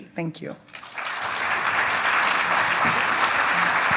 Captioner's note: audience claps